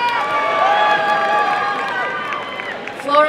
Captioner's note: applause and cheering